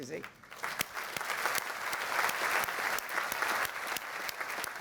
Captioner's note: applause